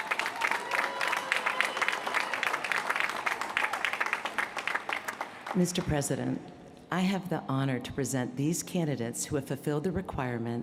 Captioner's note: applause